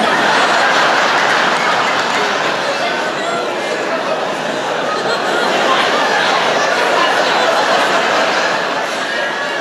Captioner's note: laughter